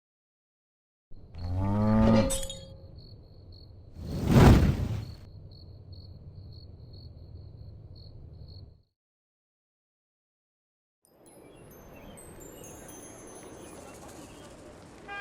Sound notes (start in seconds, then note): 1.4 cow mooing; 2.2 glass breaking; 3.9 flames whooshing; 4.4 crickets chirping; 11.2 chimes ringing